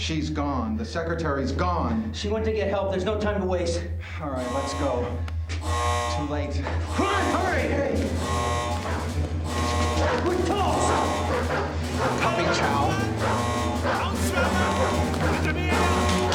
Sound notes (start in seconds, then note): 5.3 alarm wails; 9.8 dogs barking; 13.7 speaking german